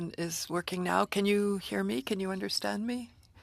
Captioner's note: speaking French